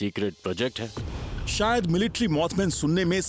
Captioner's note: narrating